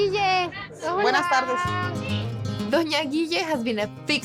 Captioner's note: speaking Spanish